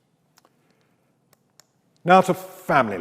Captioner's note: mouse clicks